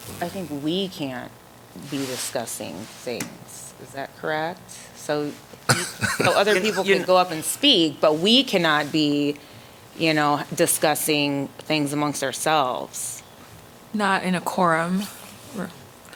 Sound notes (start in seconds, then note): 5.7 laughter